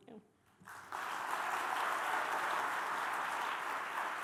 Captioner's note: applause